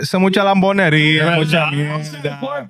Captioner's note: speaking In Foreign Language